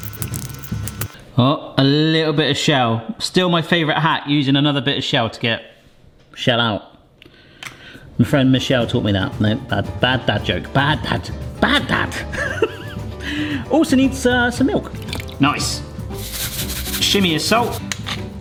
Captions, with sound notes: Oh, a little bit of shell. Still my favourite hack using another bit of shell to get shell out. My friend Michelle taught me that. No, bad, bad dad joke. Bad dad joke, bad dad. (laughs) Also needs some milk. Nice. (salt shakes) Shimmy of salt.